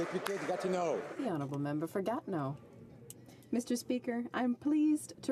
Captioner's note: applause